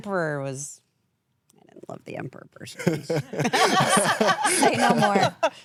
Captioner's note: laughs